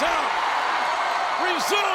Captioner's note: audience cheering